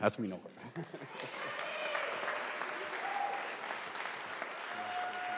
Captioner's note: audience applauding